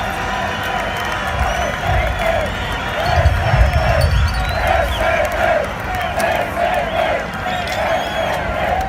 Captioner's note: People shouting "PSD" - the social-democratic party acronym